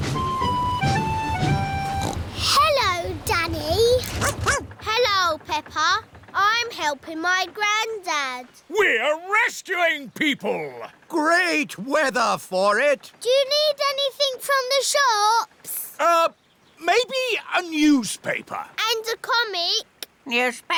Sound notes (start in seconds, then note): 1.8 snorts; 4.1 barks